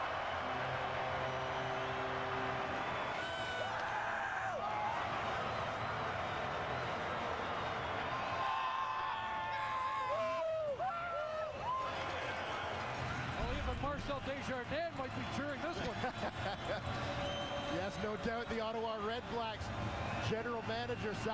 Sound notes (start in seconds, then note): 7.9 cheering